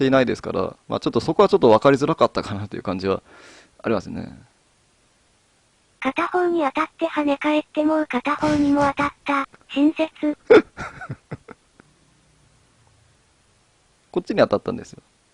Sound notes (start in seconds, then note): 10.4 laughs